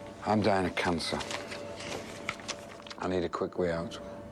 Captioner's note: paper shuffling